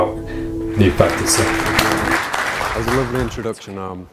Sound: audience applauding

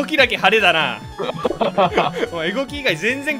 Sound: Geto laughs

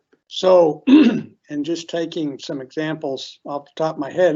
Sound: clears throat

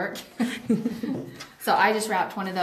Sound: laughing

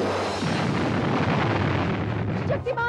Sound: explosion

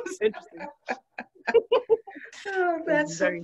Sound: laughs

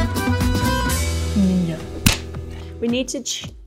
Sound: hands slapping

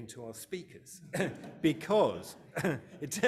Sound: audience laughing

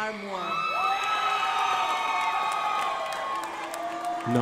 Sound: crowd applauding

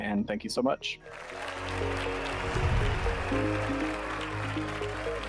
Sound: applause

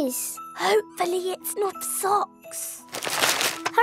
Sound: whispering

